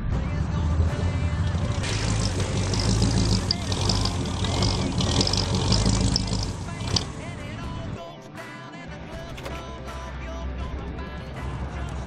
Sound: car rumble with radio in background

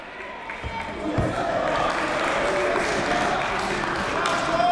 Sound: clapping

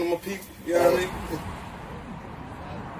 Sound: traffic noise

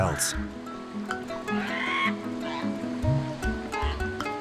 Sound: seals cry

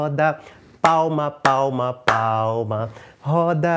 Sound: clapping

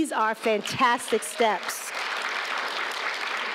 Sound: applause

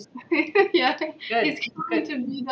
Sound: laughing

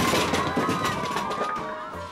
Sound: cheering

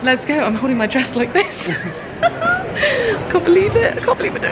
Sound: chuckles

